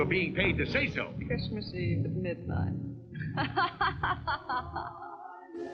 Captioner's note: laughing